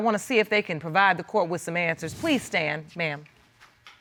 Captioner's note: none